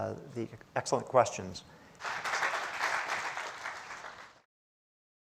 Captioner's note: audience applauds